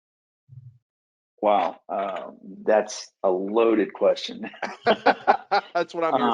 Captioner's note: laughs